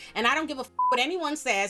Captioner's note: beep